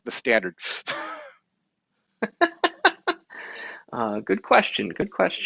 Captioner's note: both chuckle